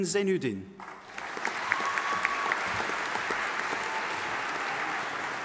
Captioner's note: audience applauding